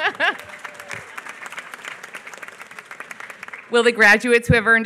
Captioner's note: laughs; applause